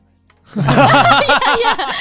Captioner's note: everyone laughing